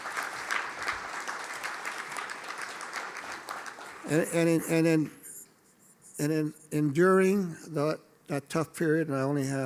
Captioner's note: applause